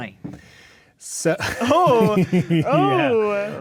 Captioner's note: laughing